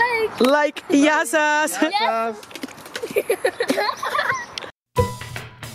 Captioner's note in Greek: γέλια